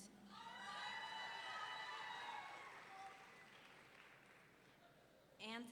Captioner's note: audience members cheering